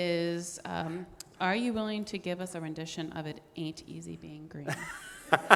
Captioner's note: laughing